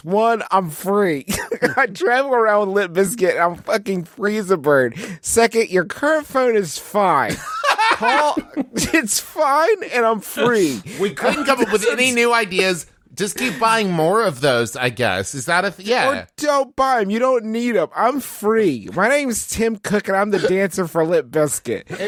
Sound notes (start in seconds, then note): 7.3 busts into laughter